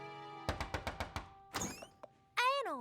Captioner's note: knock on door